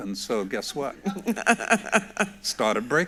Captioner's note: laughs